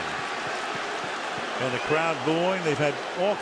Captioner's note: booing